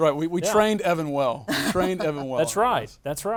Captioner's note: laughing